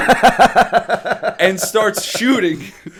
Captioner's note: laughter